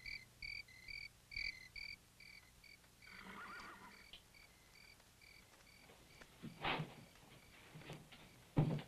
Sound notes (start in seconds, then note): 3.0 horse whinnies